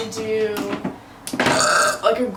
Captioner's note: burps